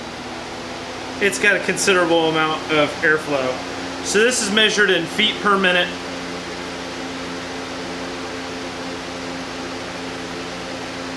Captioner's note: fan running